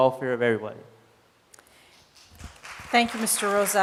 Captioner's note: applause